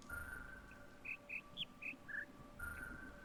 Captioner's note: bird chirps five notes